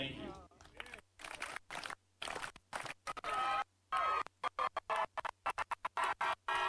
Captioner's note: clapping; cheering